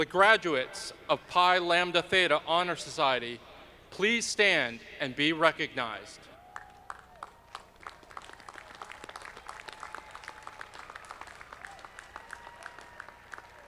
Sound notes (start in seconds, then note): 6.5 audience clapping